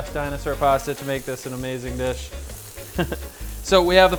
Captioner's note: chuckles